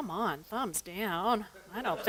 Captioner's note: laughter